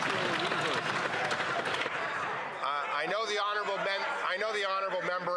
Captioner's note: some Applause